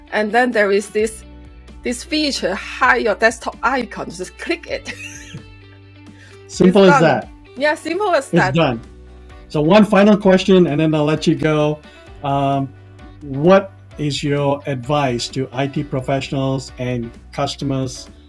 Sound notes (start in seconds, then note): 4.8 laughs